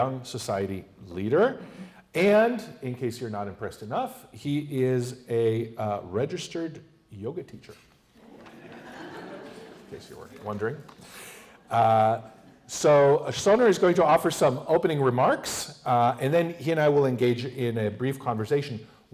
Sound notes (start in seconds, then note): 8.2 laughter